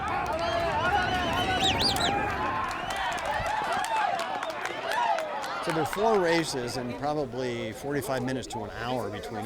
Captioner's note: cheering